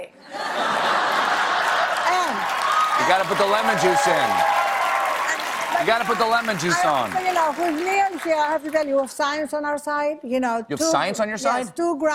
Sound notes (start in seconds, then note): 3.5 cheers and applause